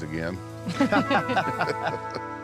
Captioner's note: everyone laughs